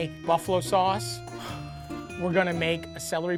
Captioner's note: Matty pants